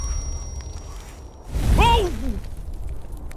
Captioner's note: whoosh!; sizzling fire; crackling of burning villagers